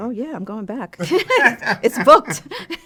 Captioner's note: both laughing